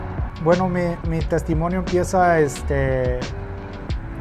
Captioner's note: speaks in Spanish